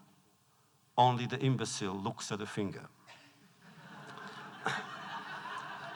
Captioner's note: laughter